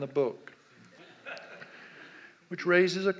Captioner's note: audience laughs